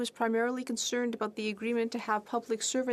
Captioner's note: speaking french